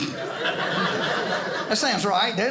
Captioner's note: audience laughing